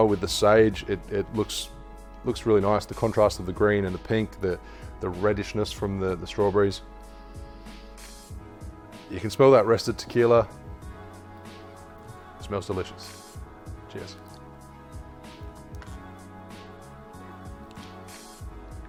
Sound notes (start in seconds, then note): 6.9 sniffs